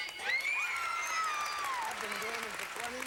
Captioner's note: audience applauding